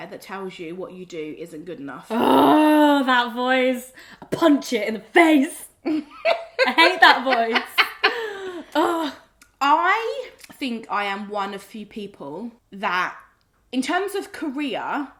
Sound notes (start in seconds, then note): 2.1 groans; 5.9 both laugh